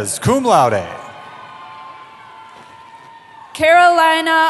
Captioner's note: cheering